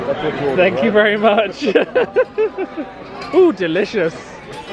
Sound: laughs

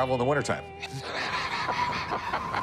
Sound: laughter

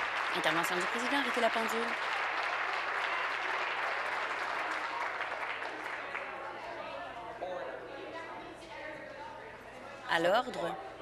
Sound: applause

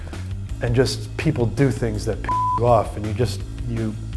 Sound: beep

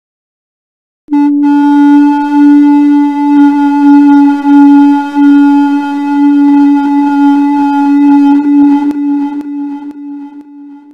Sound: eerie sound

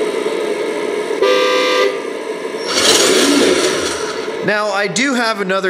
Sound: horn honks

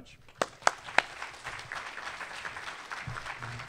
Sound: applause

